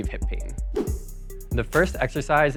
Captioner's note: wooshing